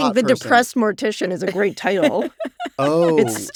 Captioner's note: laughs